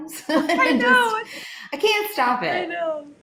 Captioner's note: laughs